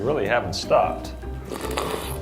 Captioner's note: slurps